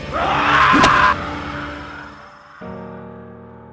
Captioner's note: screaming; suspenseful music; dramatic music